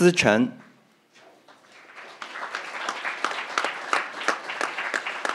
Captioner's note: crowd applauding